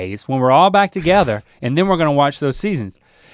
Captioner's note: Rhett scoffs